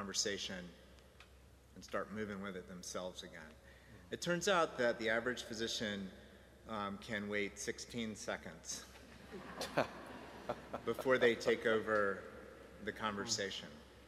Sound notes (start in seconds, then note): 9.2 audience laughing